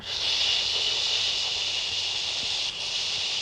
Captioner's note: shushes